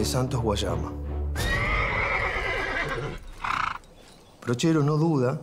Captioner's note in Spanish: Relincho de caballo